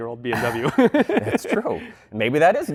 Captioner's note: laughter